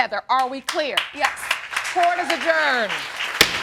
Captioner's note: audience applauding